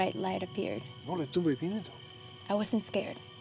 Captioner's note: speaking spanish